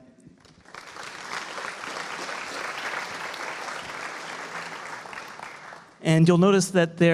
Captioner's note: applause